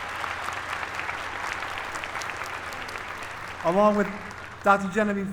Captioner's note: applause